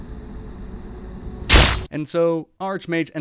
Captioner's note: smack